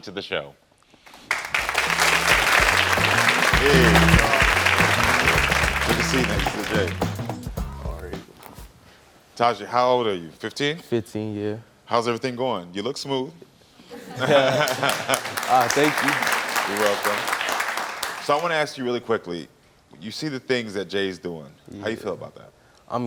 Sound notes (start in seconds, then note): 1.2 crowd applauding; 13.9 all laughing; 14.3 crowd applauding